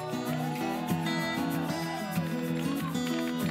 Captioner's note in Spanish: Clamor e timbres